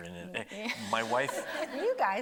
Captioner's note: everybody laughing